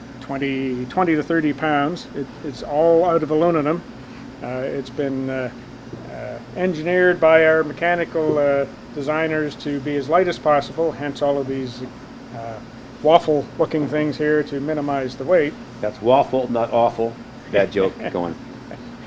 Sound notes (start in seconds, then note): 18.7 laughs